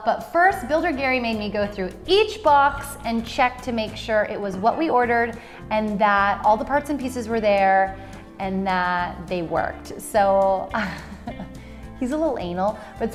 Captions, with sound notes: But first, Builder Gary made me go through each box and check to make sure it was what we ordered and that all the parts and pieces were there and that they worked. So (laughs) he's a little anal,